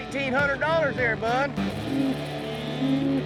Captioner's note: cows moo